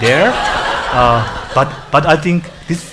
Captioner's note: audience laughs